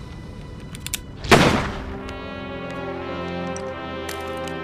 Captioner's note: gun firing; somber music